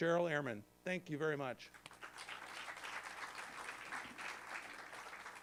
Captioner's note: applause